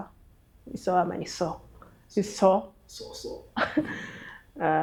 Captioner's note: laughs